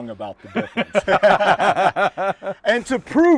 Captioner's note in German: lachen